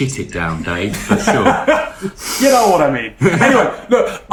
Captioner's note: laughing